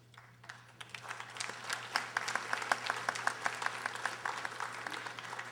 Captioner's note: audience applauding